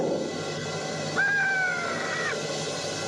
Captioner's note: caws